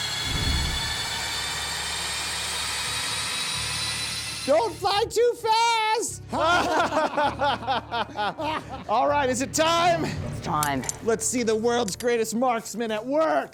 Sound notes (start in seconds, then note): 6.3 laughter